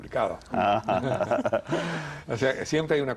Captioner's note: risas